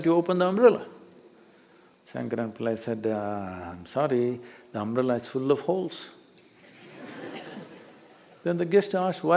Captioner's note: laughter